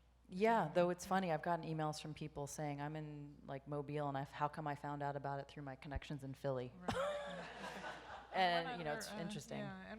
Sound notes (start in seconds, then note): 7.3 audience laughs